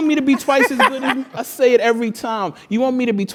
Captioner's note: laugh